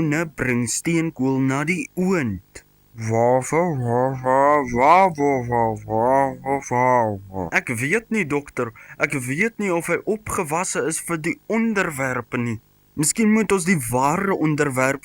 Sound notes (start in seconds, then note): 3.0 dog noises